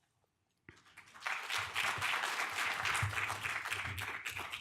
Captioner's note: audience applause